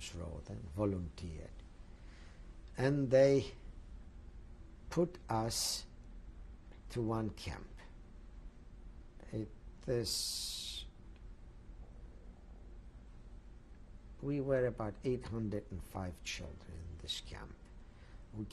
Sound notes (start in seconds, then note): 7.8 pauses for 6 seconds